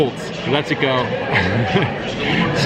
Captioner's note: chuckling